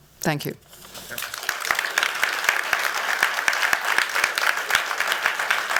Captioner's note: applause